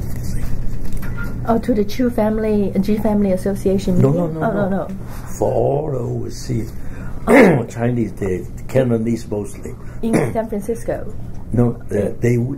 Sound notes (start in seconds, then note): 6.6 coughs